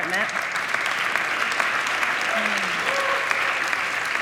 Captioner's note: audience applauding